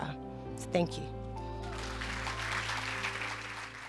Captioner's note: cheers and applause